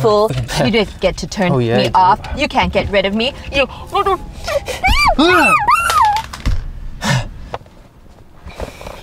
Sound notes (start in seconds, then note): 3.9 muffled shouting